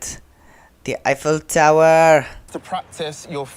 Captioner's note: bad French accent